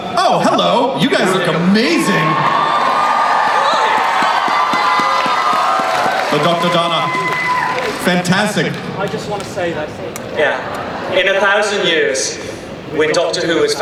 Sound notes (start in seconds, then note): 1.8 cheering; 9.6 voiceover